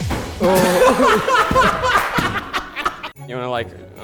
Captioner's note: everyone laughs